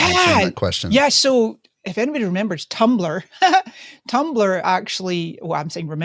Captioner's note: laughs